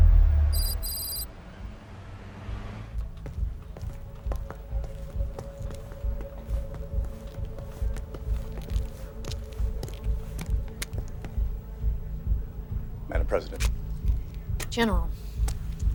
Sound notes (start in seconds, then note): 0.6 letters clicking; 3.0 footsteps thudding